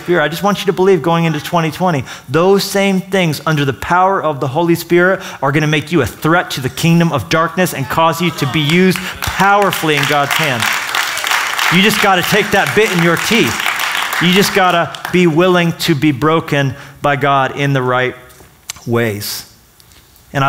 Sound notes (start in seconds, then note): 10.6 applause